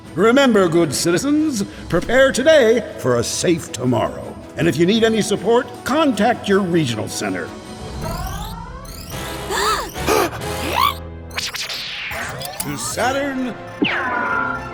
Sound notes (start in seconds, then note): 9.3 gasps